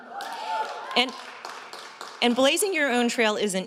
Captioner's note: audience cheers